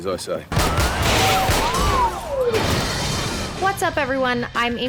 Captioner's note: guns shooting